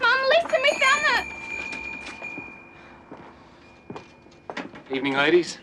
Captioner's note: bells jingling